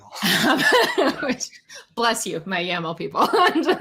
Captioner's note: laughs